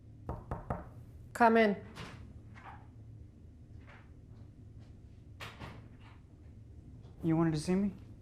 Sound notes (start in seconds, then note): 0.3 knock at door